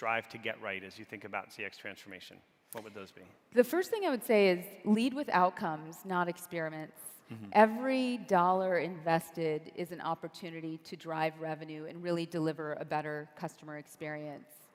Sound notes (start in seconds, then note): none